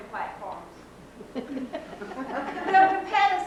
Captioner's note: laughter